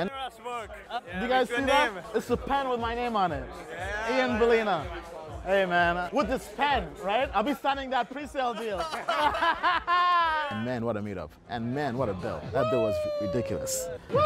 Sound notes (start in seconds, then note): 8.6 laughs